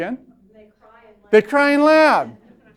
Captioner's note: voiceover